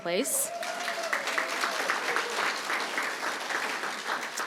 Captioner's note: applause